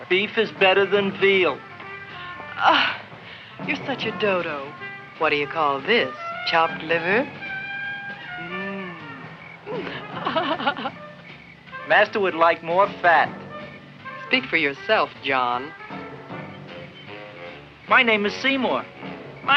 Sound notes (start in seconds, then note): 2.6 Leonora groans; 9.6 Leonora laughs